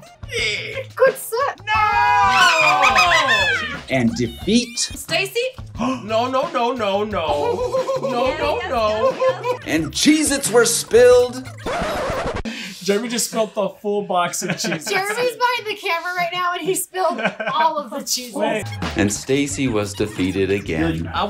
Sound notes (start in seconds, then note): 2.4 cackling; 6.0 gasps; 7.3 laughing; 11.6 record scratch